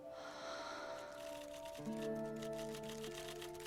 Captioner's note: sighs